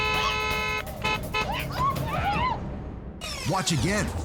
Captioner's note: car horns